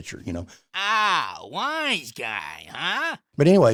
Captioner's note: funny voice